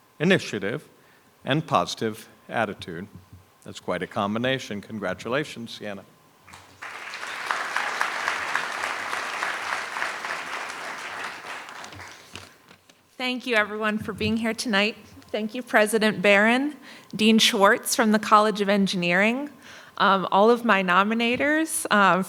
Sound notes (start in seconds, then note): 6.5 audience applauding